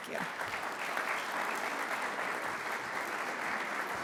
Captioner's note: audience applauds